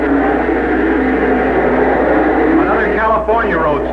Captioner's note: engine roaring